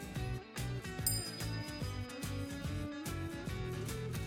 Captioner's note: ding